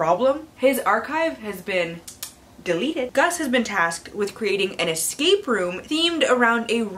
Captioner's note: tsk tsk